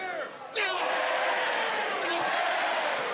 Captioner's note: crowd cheering